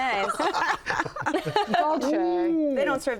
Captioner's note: laughter